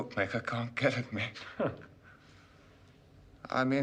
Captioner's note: Terkekeh